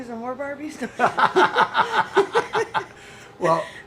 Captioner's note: laughter